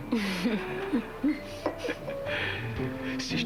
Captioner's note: Rires